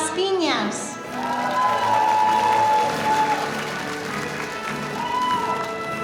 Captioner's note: audience cheering